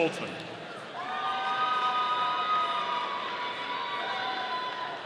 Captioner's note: audience cheering